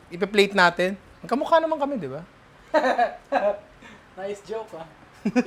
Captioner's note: laughs